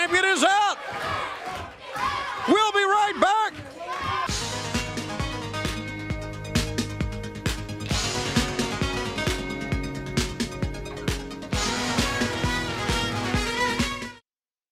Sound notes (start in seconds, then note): 1.7 crowd cheering